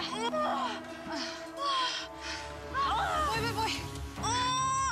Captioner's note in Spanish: gemidos y gritos